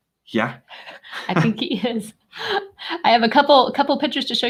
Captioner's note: both chuckling